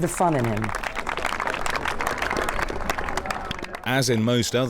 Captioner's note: spectators clapping